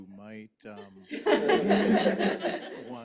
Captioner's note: laughs